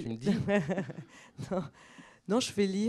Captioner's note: laughs